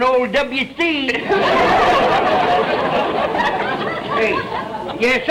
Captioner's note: audience laughter